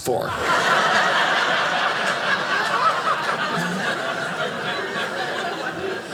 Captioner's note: audience laughing